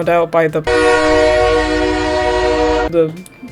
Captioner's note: T r a i n honking